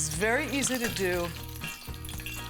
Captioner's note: oil popping